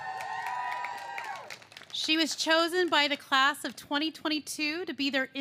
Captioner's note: cheers and applause